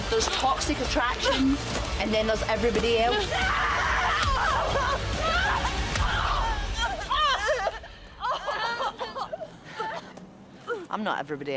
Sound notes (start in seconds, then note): 6.7 screams